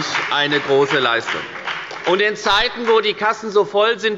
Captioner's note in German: Beifall bei der FDP und bei Abgeordneten der CDU